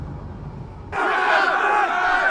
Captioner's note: yelling